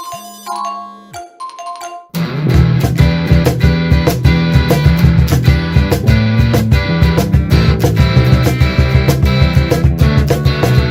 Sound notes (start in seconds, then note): 0.0 layered notification sounds; 1.3 notification sounds intensify